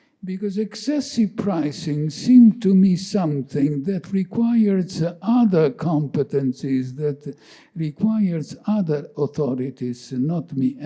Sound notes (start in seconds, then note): none